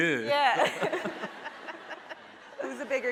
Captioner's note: laughing